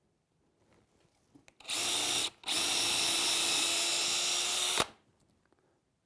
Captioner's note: screw gun